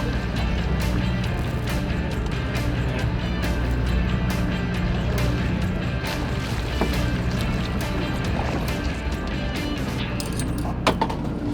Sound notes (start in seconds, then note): 6.9 fish splashing water